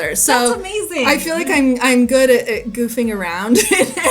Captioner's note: laughs